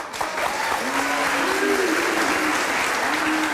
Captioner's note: applauding; crowd